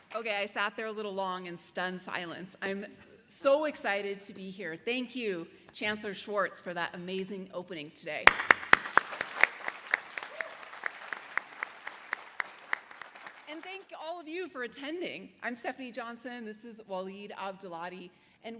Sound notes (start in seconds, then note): 8.2 audience applause; 8.2 applauding